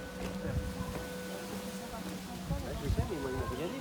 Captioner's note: sound of the wind